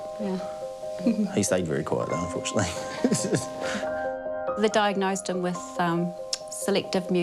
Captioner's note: chuckles; chuckles